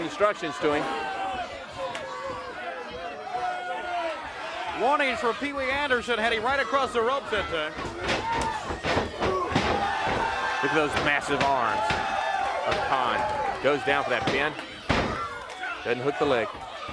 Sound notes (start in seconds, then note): 3.9 crowd chatter; 8.4 crowd cheering; 16.7 crowd chatter